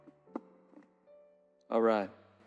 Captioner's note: tapping